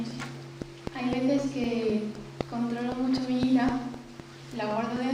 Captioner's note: spanish